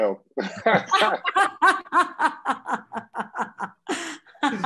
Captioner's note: all laughing